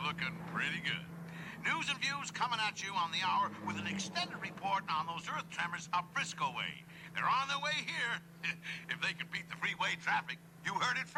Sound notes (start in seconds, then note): none